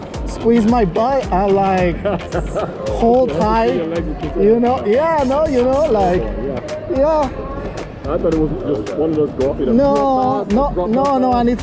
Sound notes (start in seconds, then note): 1.6 laughing; 3.8 man murmurs